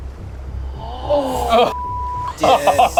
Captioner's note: group gasps; beep